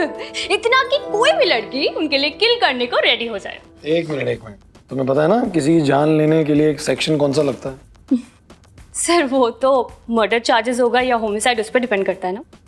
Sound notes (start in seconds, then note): 8.0 chuckling